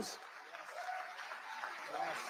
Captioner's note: audience applauding